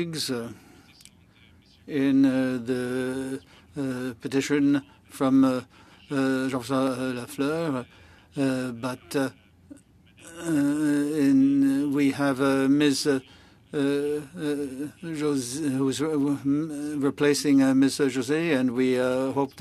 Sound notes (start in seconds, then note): 11.0 speaking French